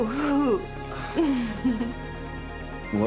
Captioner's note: giggles